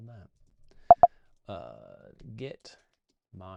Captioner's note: beeps